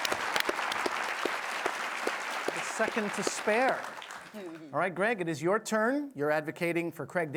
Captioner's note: applause